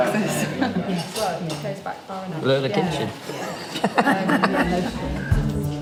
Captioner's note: room chattering